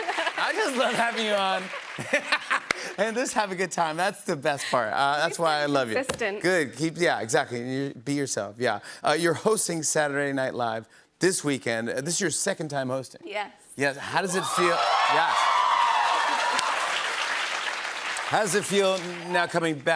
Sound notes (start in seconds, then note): 14.2 cheers and applause